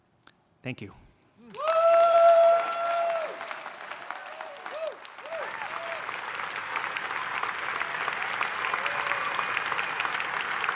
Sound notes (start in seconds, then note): 1.4 audience applauding; 1.4 audience cheering